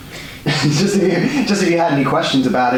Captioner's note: laughs